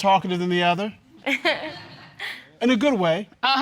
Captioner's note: audience chuckles